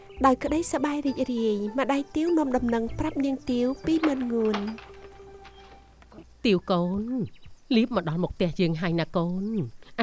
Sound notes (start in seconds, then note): none